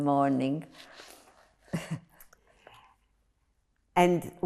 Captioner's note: laughing